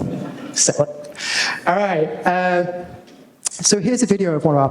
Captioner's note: laughter